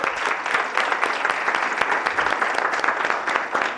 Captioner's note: applause